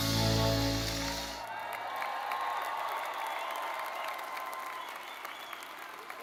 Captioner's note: all cheering and clapping